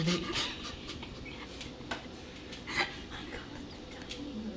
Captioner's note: laughing